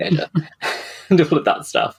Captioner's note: laughs